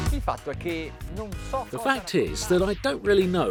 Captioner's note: speaking foreign language